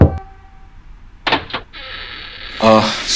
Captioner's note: Knocking on the door; Door opens